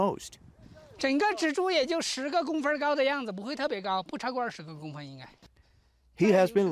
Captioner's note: speaking Chinese